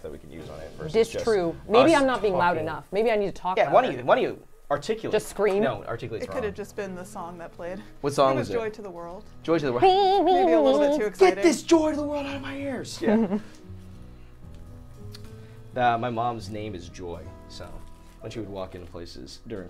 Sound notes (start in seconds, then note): 10.5 humming; 13.0 laughs